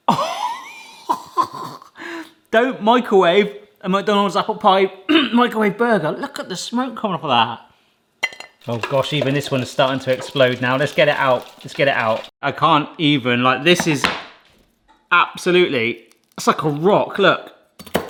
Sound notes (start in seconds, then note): 0.0 host laughs; 5.1 clears throat; 8.3 burger knocks; 13.8 board knocks